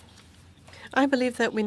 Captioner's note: speaking French